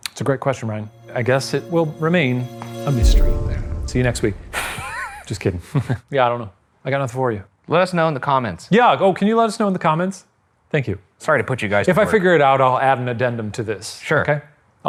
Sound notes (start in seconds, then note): 4.5 chuckles